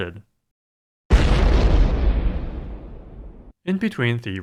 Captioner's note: explosion